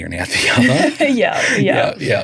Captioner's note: all laughing